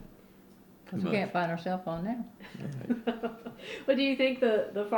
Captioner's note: laughs